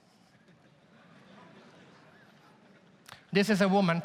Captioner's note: audience laughs